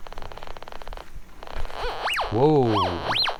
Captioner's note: metal detector squeals